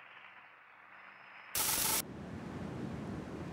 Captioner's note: sizzling